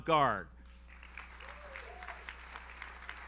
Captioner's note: audience cheers; audience applauds